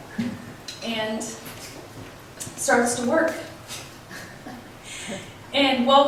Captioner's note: giggles